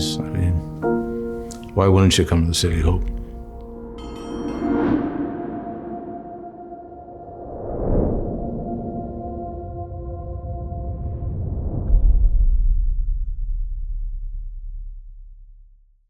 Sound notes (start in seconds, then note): 3.8 bell ringing